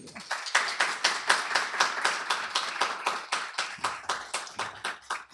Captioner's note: applause